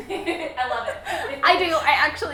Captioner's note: laughs